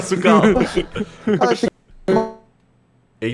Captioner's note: laughing; laughs; audio glitching